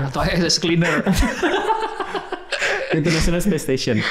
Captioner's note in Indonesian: tertawa